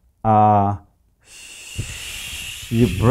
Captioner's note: blowing air through teeth